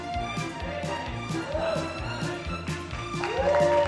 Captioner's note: cheers